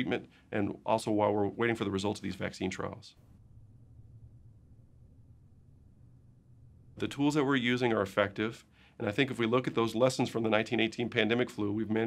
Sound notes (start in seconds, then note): 3.1 silence